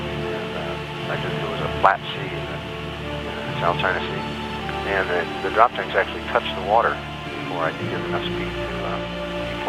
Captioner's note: pilot radio call